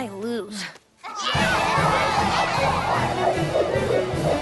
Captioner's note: all cheering